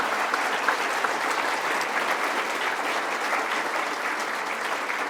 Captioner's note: applause